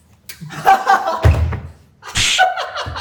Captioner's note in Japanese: 笑い声